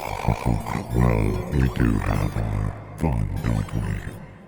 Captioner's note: chuckles